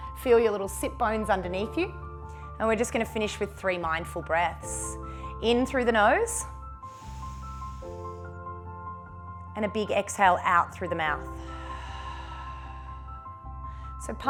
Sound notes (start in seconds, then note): 6.8 inhales; 11.4 exhales